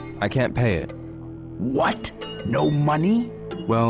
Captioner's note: game audio